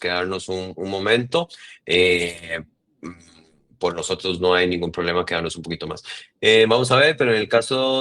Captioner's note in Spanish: carraspeo